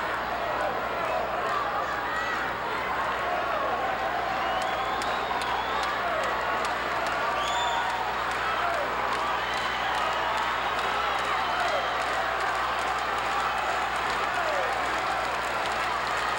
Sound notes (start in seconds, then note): 5.2 audience cheering continues; 8.9 audience applauding